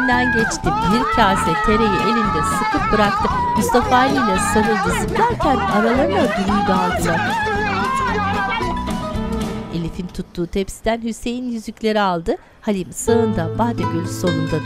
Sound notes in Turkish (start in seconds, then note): 3.4 Bağırma sesleri; 13.1 Müzik Duygusal